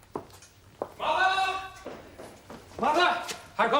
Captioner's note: SIMON, shouting